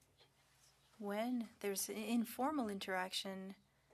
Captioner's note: speaking French